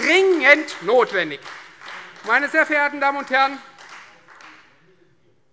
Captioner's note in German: Beifall Freie Demokraten